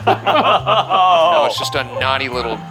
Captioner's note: laughing